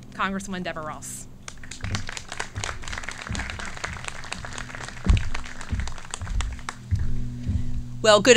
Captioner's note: clapping